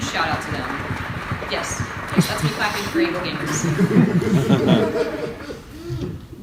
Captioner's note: applause heard in the room next door; laughter